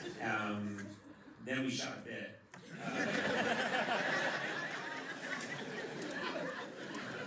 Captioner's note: laughter